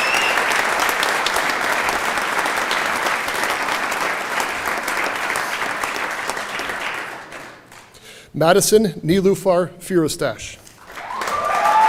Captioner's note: applause; cheering